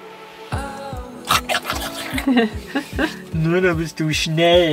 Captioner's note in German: Essgeräusche